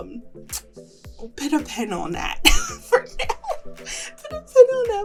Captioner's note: laughs